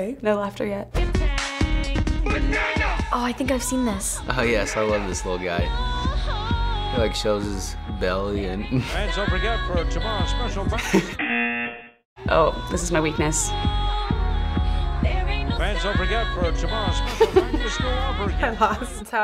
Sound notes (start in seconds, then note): 1.4 club music; 8.4 chuckles; 10.7 chuckles; 11.2 buzzer; 17.0 chuckling